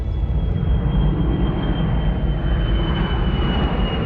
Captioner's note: airplane Engine